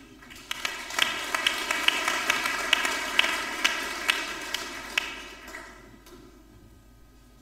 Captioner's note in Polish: oklaski